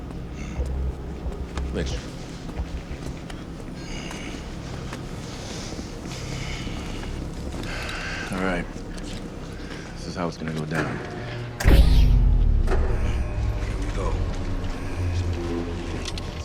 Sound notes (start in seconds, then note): 11.6 electricity whirring down